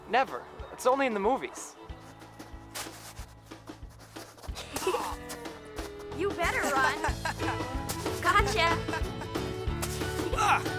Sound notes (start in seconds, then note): 2.3 heartening music; 4.6 Jake playfully groans; 6.6 giggles; 6.7 Jack laughing